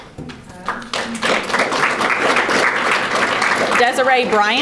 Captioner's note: audience applauding